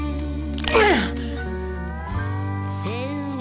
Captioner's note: loud crunch